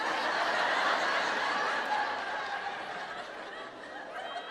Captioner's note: audience laughs